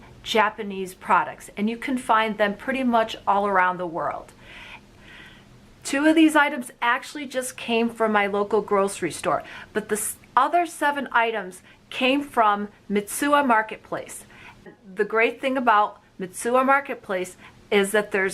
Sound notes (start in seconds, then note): none